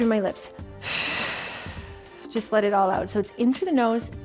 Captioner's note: exhales